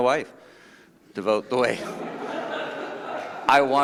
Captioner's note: laughing